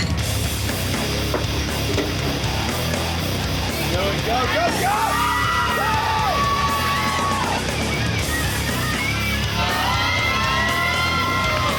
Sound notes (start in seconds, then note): 0.2 heavy rock music; 4.4 crowd cheering; 8.1 heavy rock music